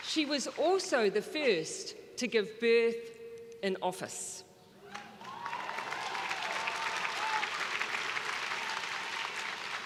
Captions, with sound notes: She was also the first to give birth in office. (crowd cheering)